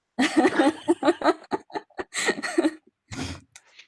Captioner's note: laughing